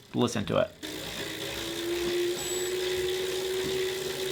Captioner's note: bike quietly hums